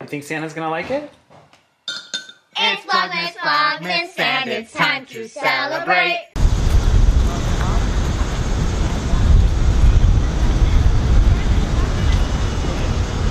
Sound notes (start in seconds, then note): 1.9 spoon clanks